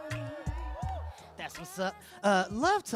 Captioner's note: audience cheering